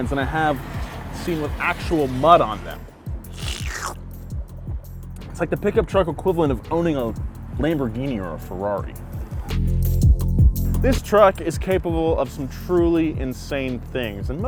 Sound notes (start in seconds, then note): 3.3 slurps unduly loudly; 9.6 smooth electronic music